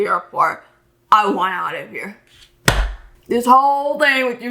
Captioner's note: slaps hand on desk